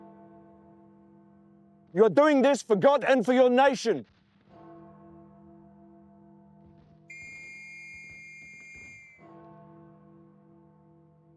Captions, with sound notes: You're doing this for God and for your nation. (bell tolls) (whistle)